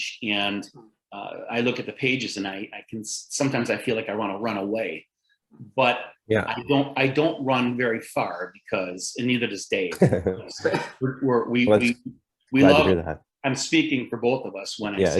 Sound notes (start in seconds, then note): 9.9 laughter